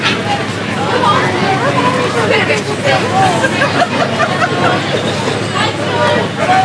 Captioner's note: A pedestrian laughs